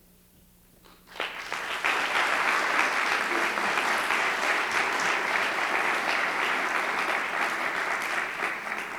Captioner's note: applause